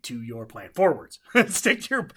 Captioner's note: laughs